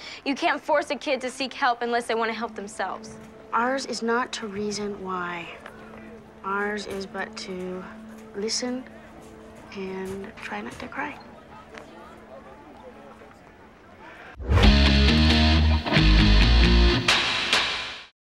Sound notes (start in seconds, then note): 11.5 students talking; 14.4 rock music fades